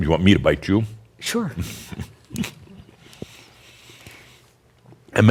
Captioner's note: they chuckle